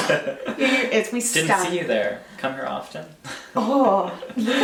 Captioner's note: laughs